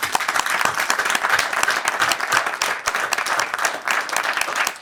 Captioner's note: audience clapping